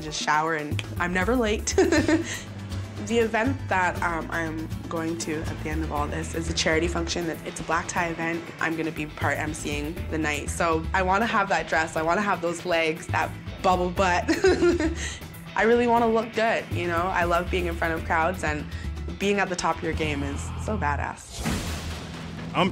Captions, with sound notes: to just shower and I'm never late. (laughs) The event that I'm going to at the end of all this is a charity function that is a black tie event. I'm going to be part MCing the night, so I want to have that dress, I want to have those legs, that bubble butt. (laughs) I really want to look good, you know? I love being in front of crowds, and being at the top of your game is so bad ass.